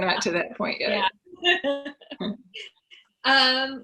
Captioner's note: laughs